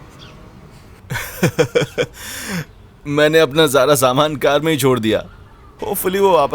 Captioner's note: chuckling